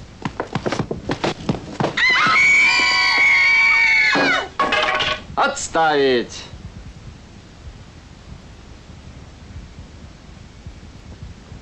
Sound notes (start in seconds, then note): 1.9 screaming; 5.5 foreign language